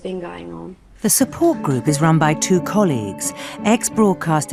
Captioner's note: voiceover